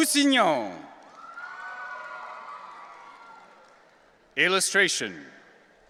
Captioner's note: audience cheering